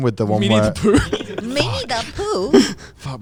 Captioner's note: laughs